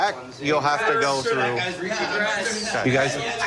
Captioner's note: arguing